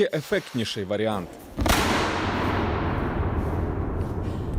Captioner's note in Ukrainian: Чутно гучну луну; Бабах!